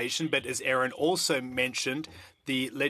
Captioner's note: speaking French